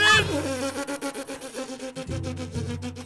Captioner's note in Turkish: Tükürüyor